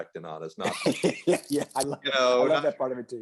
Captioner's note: laughs